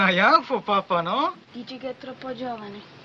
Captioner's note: speaking in italian